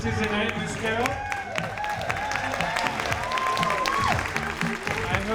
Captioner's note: audience applauding